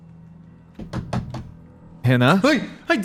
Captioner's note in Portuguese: batidas na parede